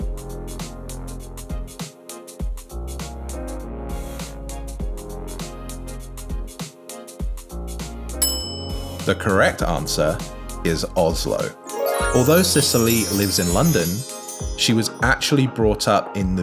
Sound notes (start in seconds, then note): 8.2 bell rings; 11.6 bright chimes